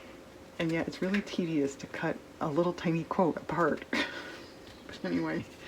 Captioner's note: laughs